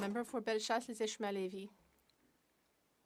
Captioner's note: speaking French